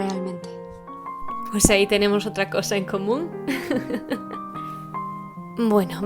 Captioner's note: laughs